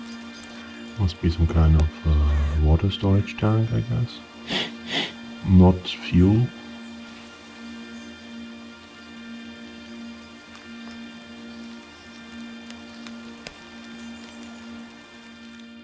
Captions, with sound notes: Must be some kind of water storage tank, I guess. [Sniffing sound] Not fuel.